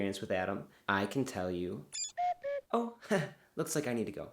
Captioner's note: whistling